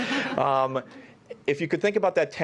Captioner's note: laughter